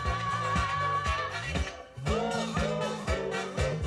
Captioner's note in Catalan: Aplaudiments